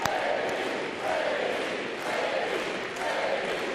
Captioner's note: applause